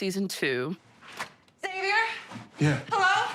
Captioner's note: door opens